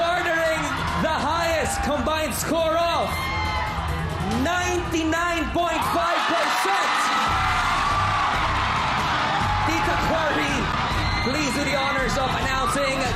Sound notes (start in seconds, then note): 7.6 audience cheering